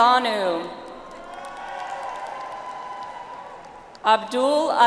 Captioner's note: audience applauds